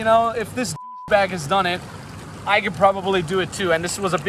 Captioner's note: beep